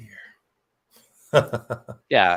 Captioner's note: laughs